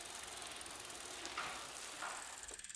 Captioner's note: bicycle wheels whirring